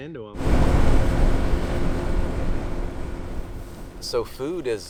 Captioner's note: engine roaring